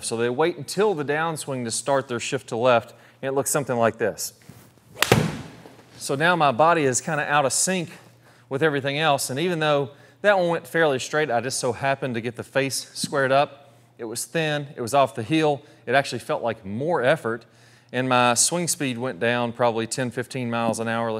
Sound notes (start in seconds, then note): 4.9 golf ball hitting